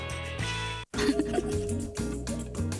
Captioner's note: woman Laughing